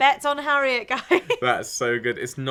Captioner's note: laughing